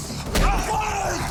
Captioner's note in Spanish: Gritos y exclamaciones